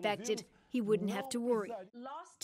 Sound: speaking portuguese

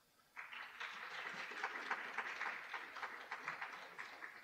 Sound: audience applauding

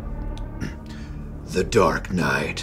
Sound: clears throat

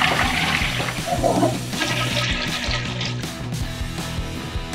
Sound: toilet flush

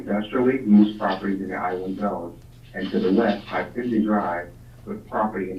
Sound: murmurs

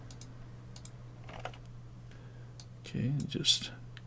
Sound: clicking

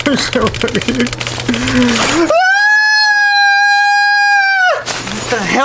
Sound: screams

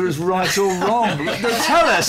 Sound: laughter

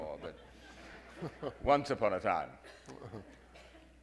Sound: audience laughing

